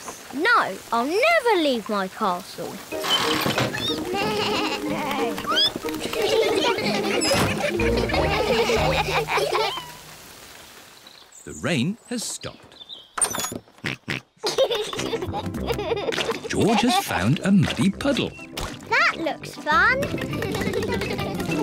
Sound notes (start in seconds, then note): 3.1 all giggle; 14.4 snorts and giggles; 20.1 all giggle